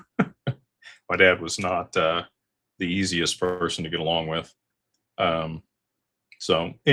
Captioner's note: laughter